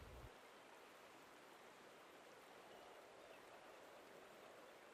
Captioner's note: wind blowing softly